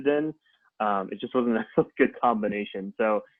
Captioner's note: laughs